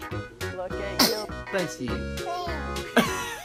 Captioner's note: baby sneeze; laughing